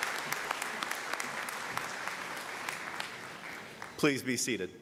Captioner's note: applause